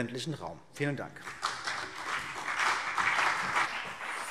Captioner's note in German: Beifall CDU und BÜNDNIS 90/DIE GRÜNEN